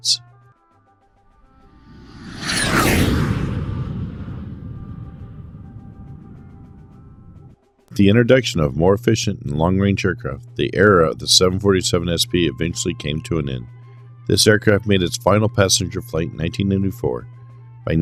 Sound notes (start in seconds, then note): 1.6 jet Whoosh